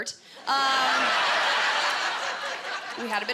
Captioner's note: laughter